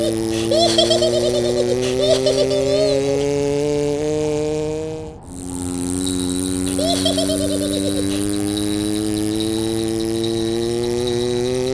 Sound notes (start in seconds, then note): 0.4 giggling; 3.2 vw motor; 6.7 giggling; 6.7 bells jingling; 8.3 vw motor